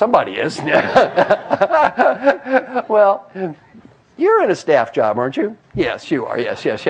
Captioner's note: laugh